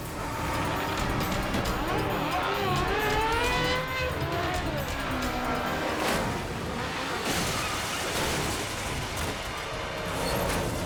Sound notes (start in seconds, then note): 0.0 motorcycles revving; 0.2 tense music continues; 5.7 motorcycle crashes; 7.1 motorcycles clanking